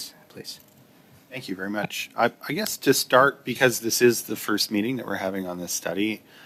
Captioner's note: speaking French